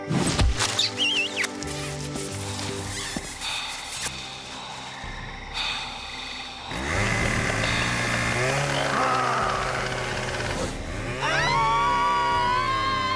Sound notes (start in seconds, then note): 0.6 kissing; 5.4 inhales sharply; 6.7 chain saw revving; 11.1 screaming